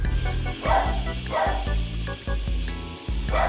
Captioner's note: more borking